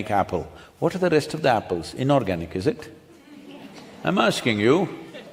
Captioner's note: few laugh